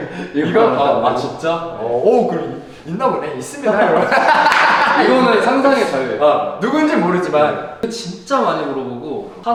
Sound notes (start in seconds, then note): 3.8 laughing